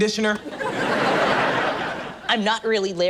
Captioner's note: audience laughs